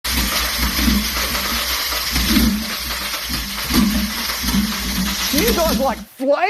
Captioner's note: engine struggling to start